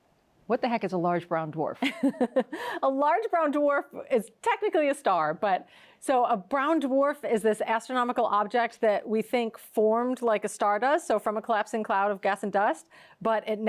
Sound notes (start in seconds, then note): 2.7 laughs